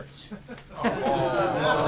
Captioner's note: laughter